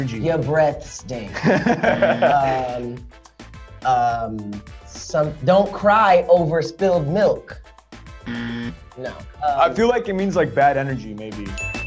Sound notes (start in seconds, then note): 1.4 Diego laughs; 1.9 buzzer; 8.2 buzzer